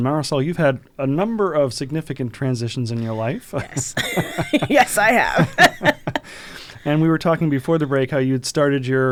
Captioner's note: laughter